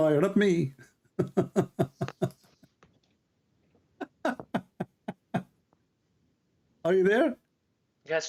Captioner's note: Ketawa